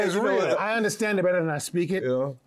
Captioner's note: laughs